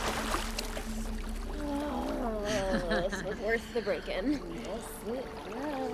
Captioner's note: groaning